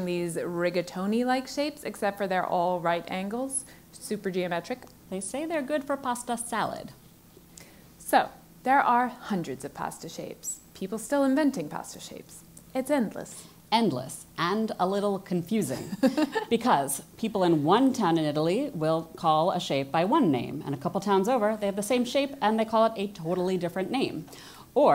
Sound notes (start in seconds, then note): 15.8 laugh